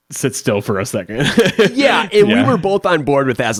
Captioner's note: laughs